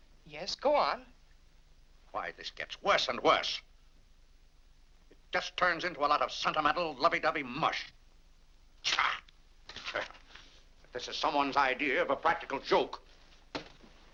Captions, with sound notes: - Yes, go on. - Why, this gets worse and worse! It just turns into a lot of sentimental, lovey-dovey mush. (grumbles) (paper crumples) If this is someone's idea of a practical joke...